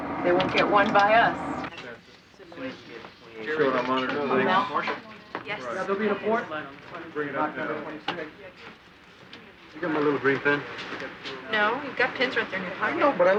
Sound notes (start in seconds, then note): 5.1 chattering